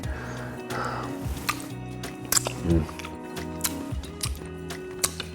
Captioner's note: lips smacking